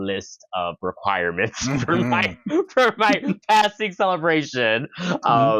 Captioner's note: laughing